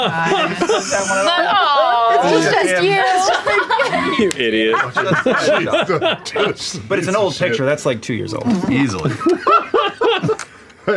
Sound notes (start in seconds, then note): 0.0 laughter; 3.2 laughter; 8.9 laughter